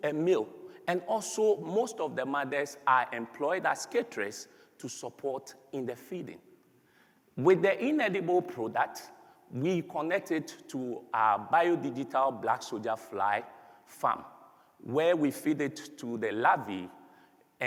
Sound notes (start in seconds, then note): none